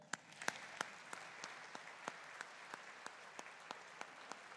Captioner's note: audience applauding